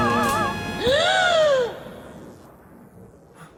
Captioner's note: bride gasps